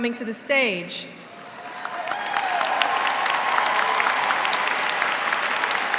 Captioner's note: applause